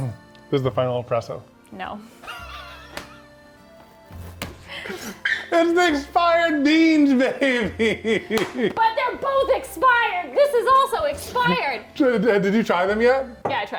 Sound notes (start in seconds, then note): 2.2 laughs; 4.8 clapping hands; 6.8 laughs; 8.2 claps hands